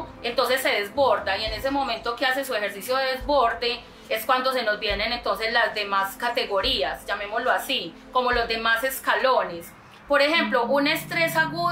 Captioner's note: steps